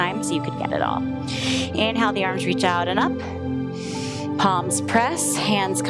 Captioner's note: inhales